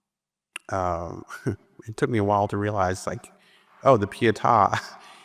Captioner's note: chuckles; chuckles